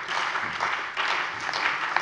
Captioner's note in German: Beifall bei der CDU, der SPD und dem BÜNDNIS 90/DIE GRÜNEN